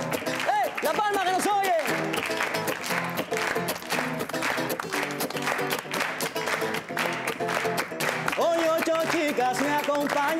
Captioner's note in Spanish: Palmadas al compás